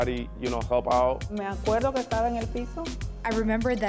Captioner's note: speaking in Spanish